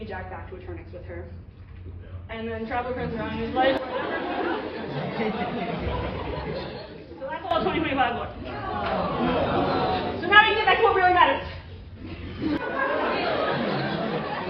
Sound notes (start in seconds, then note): 7.3 laughter; 9.4 disappointed sounds; 12.0 laughter